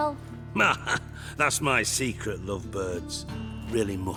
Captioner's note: laugh